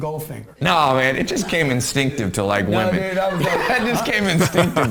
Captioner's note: laughs